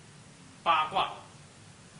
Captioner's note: speaks Chinese